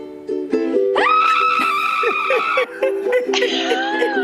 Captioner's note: screams over ukelele